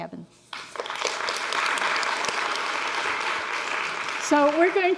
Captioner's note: audience applauds